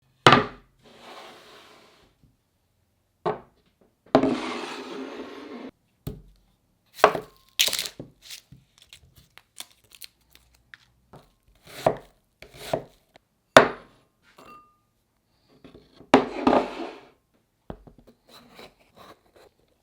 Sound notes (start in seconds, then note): 0.9 board sliding; 4.2 bowl sliding; 7.0 knife cutting